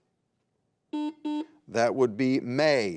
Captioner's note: buzzer beeps